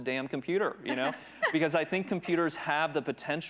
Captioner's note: chuckles